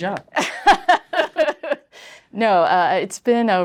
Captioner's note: laughs